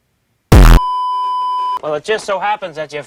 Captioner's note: beeeeeeeeeeeep